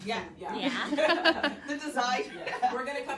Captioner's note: laughter